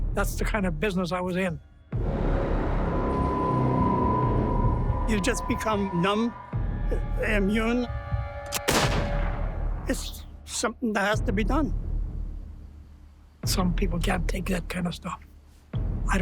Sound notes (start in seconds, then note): 2.5 ominous music; 8.5 gunshot